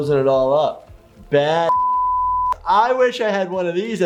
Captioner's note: beep